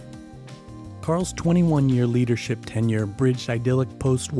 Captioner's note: voiceover